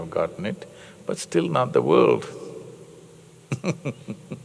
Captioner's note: laughs